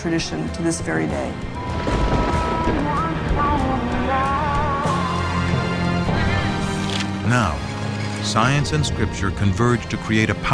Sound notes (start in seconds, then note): 1.4 thunder crashes